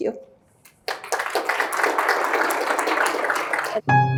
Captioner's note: applause